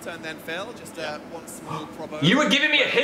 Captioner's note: Phil gasps